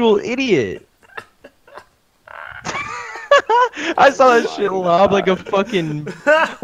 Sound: hyperventilated laughter

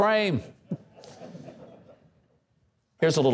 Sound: audience laughing

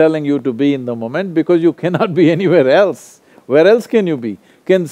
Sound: laughs

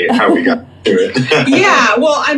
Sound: laughs

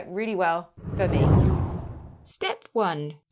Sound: air swooshing

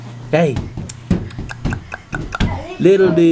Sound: tongue clicking

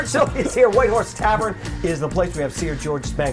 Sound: laughter

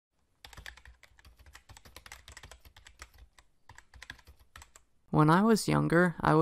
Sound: keyboard typing

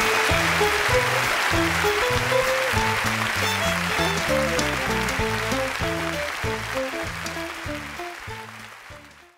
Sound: applause

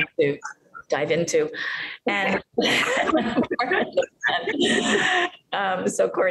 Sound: both laugh

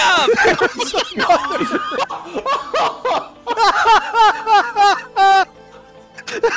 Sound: hysterically laughter; laughter

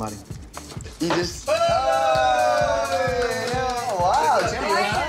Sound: group cheering

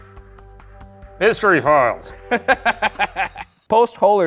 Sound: laughs

